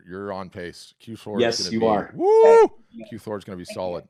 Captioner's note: cheers